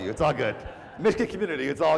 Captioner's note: laugh